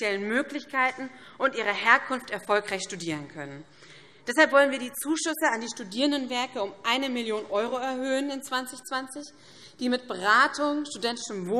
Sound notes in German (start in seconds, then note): none